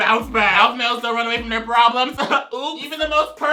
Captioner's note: chuckles